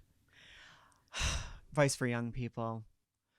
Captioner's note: exhaling